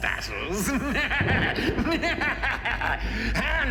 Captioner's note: laughs evilly; thunder rumbles